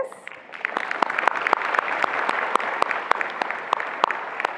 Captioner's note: attendees applauding